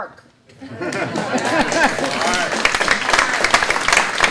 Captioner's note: audience clapping